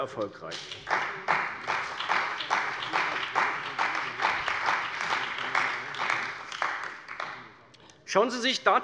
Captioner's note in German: Beifall bei der CDU und dem BÜNDNIS 90/DIE GRÜNEN